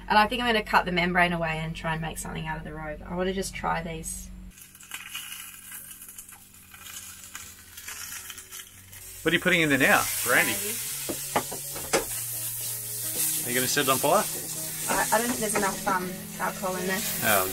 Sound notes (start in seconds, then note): 4.9 food sizzles in skillet; 10.7 food sizzles